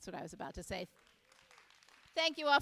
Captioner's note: audience applauding